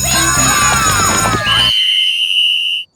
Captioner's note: whistle blows shrilly